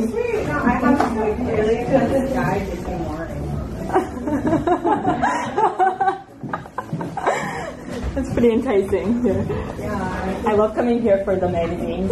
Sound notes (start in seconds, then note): 4.0 laughs